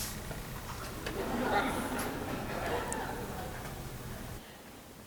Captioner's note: laughing